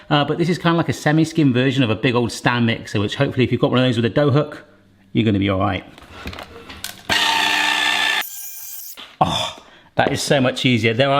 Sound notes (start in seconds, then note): 7.3 mixer whizzing